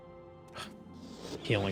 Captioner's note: scoff